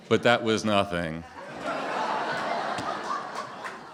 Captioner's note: laughter